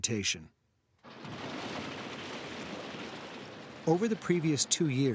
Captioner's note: machine rattling